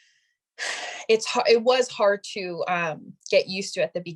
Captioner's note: sighing